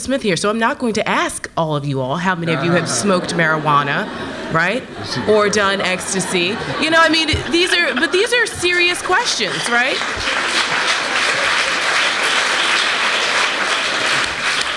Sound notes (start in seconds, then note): 3.6 audience laughs; 9.6 applause